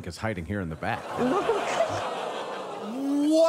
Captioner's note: audience exclaiming